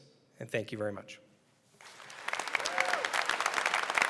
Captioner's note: applause